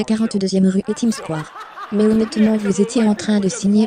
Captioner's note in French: hôtes et public riant